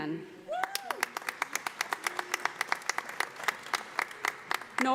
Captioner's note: audience applauding